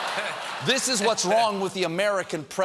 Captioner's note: laughter